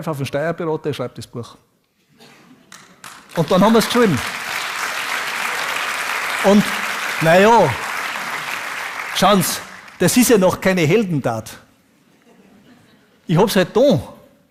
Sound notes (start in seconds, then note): 3.7 Plojimai